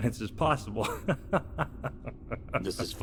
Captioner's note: laughing